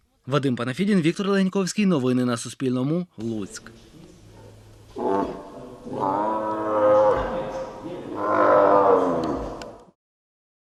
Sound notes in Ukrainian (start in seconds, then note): 3.9 тигр гарчить